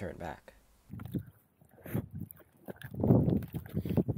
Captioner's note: cold sounds